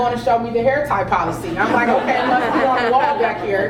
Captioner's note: laugh